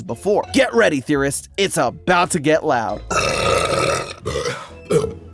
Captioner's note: burping